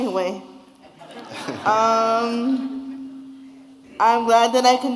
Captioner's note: audience laughing